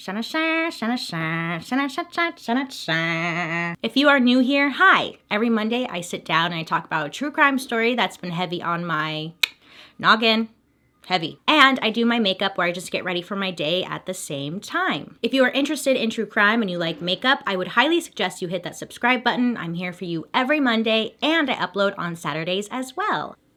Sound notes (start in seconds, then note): 0.1 theme song playing; 9.4 tongue clicking